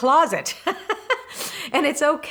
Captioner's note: laughs